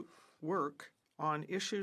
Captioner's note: speaking French